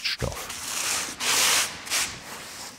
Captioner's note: scraping noises